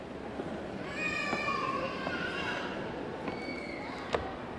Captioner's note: baby blabbering